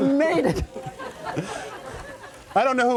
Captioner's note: laughter